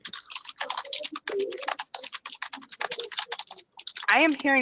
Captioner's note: rapid clattering